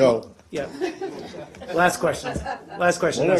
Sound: reporters laughing

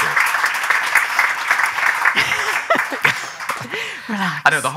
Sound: audience applauding

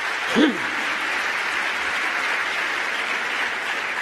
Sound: applause

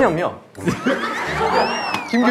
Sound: laughing

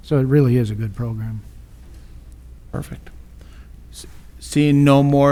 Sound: none

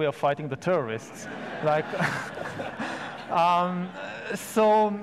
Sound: audience laughs

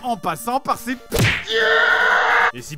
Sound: painfully screaming

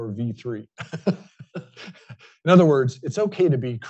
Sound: laughs

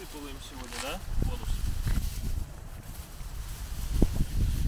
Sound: men speaking foreign language

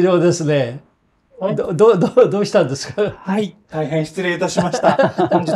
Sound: laughs

